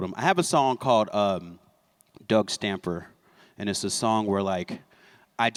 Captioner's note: none